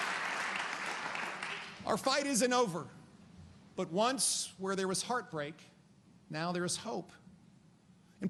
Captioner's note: applause